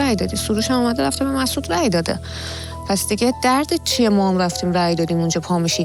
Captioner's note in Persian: صدای خرناس